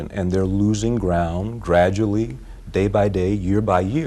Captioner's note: none